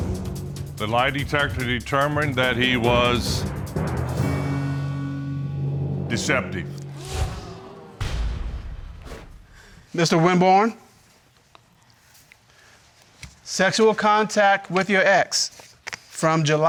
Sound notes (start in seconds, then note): 6.9 audience gasping